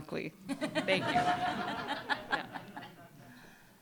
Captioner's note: laughter